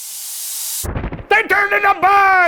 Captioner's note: thud